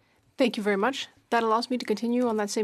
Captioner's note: speaking French